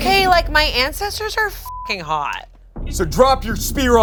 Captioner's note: beep